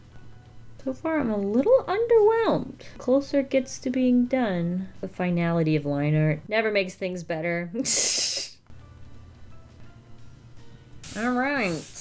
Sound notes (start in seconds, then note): 7.8 laughs